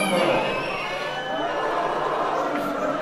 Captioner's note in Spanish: Abucheos